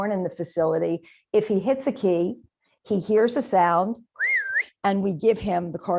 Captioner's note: whistles